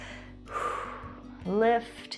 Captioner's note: exhales